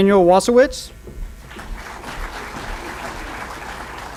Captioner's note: applause